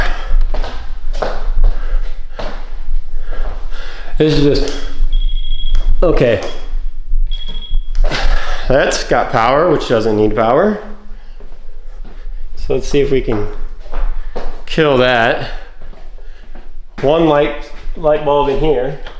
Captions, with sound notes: (Door Creaking) This is just, okay. That's got power, which doesn't need power. So let's see if we can kill that. One light bulb in here.